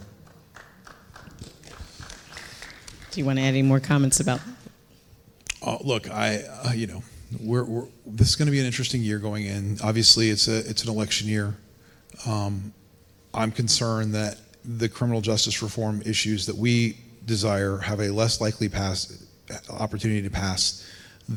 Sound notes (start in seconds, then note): 0.0 audience clapping